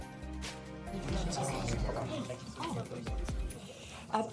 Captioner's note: crowd noise